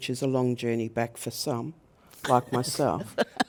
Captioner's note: laughs